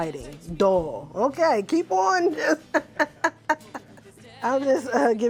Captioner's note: laughs